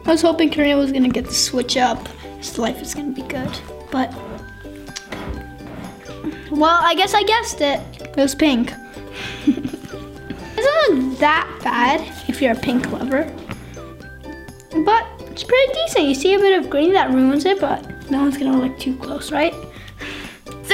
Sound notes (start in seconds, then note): 9.2 laughs